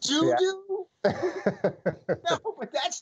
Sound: laughter

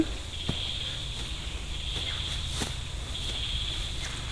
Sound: birds chirping

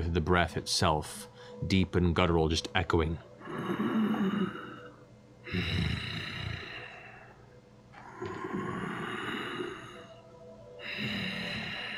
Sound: snoring

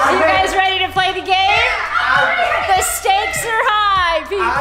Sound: frenzied cheering

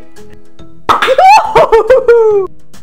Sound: canister pops; screams

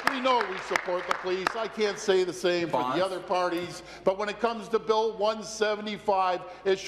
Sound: applause

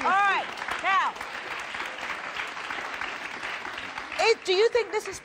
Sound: audience clapping

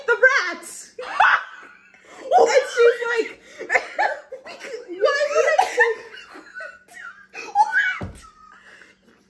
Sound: shocked Laughter

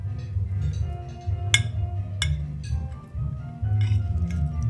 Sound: cuts into food

